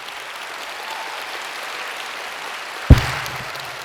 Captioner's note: audience applauds